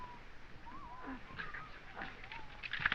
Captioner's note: whispering